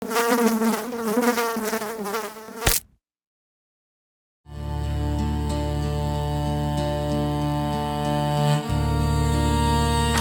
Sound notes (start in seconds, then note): 0.0 fly buzzing; 2.0 fly splatting; 4.5 soulful folk music